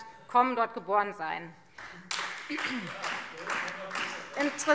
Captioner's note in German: Beifall Freie Demokraten